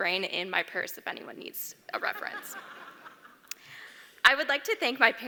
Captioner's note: laugh